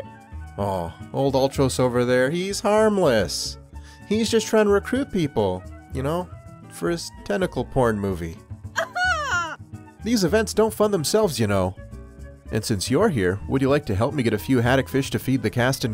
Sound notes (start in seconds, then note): 8.8 Kana makes a sound of disgust